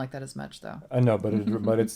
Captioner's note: laughs